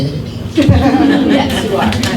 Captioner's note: laughing